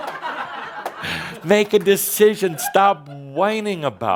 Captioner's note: laughter